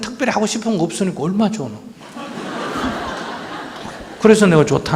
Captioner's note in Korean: 청중 웃음